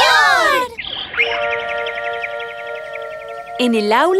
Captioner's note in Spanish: Sonido de pajaro